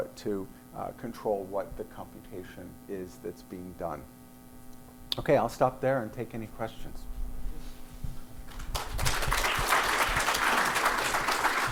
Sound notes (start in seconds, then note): 8.5 applause